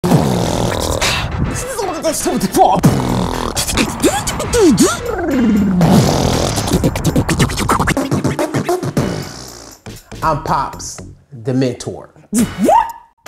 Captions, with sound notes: (beatboxing) - I'm Pops, the mentor.